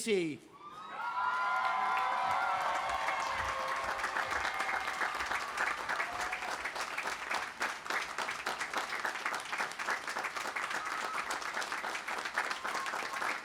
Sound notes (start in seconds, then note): 1.4 cheering; 4.0 audience applauding